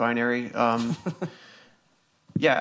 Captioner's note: laughs